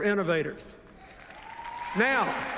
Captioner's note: cheers, applause